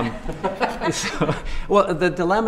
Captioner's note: laughter